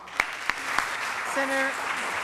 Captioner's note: applause